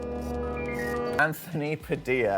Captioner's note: eerie music playing; beeping